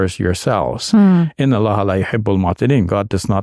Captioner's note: speaking in Arabic